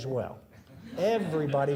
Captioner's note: audience laughing